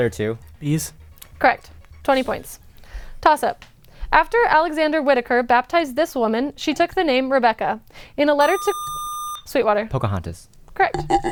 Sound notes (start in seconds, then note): 8.4 buzzer